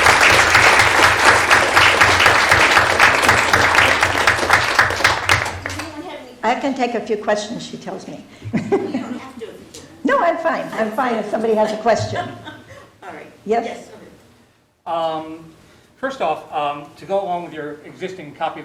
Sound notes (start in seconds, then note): 8.5 laughter; 12.0 laughter